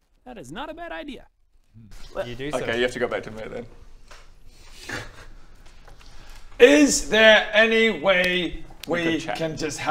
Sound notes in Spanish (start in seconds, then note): 4.8 risa nerviosa